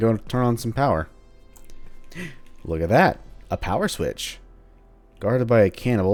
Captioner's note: le gasp